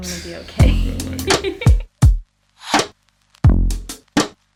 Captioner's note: laughing; percussive music